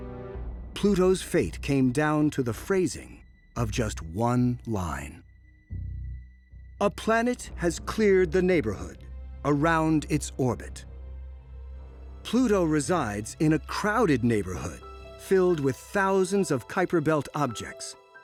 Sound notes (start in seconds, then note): none